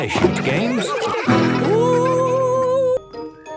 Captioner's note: laughter